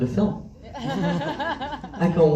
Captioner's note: laughs